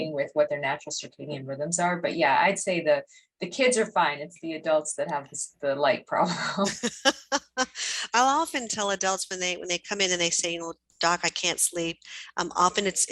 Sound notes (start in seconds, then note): 6.4 laughs